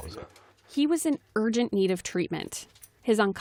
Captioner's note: voice-over